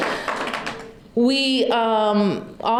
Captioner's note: applause